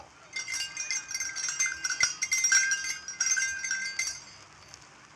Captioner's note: bells ringing